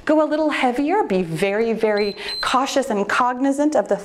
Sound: timer beeps

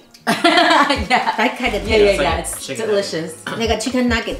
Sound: laughs

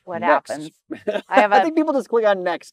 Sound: laughs

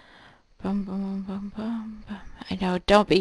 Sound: humming

